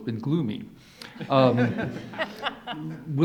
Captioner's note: audience laughs